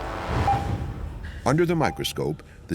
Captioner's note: monitor beeping